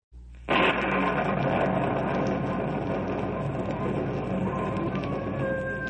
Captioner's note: explosion